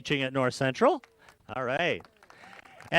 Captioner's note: applause